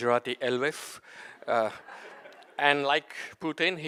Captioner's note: audience laughs